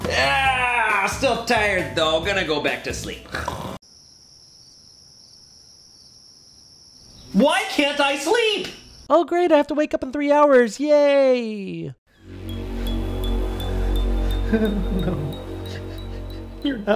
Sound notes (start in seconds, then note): 0.2 yawns; 3.3 snores; 3.8 crickets chirping; 12.1 dramatic music